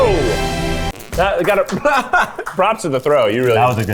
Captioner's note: laughs